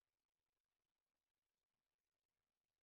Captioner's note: none